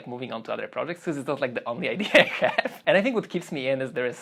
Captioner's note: laughs